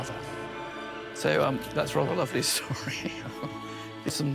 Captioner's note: chuckles